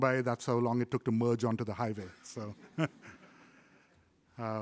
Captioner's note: laughs